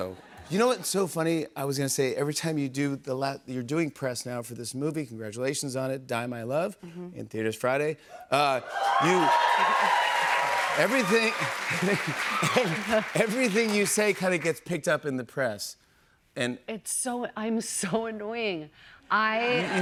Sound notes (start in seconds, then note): 8.5 cheers and applause; 11.6 both laugh